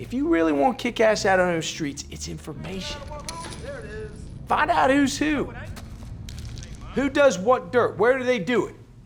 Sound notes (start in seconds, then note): 3.2 bottles fall